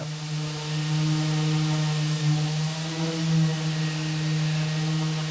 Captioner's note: electric sander whirring